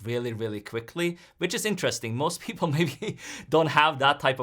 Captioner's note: chuckles